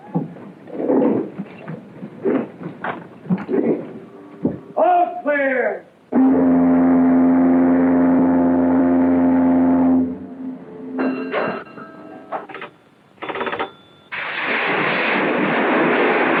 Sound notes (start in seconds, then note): 6.1 ship horn; 10.9 ship bell